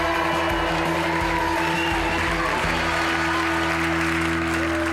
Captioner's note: crowd cheers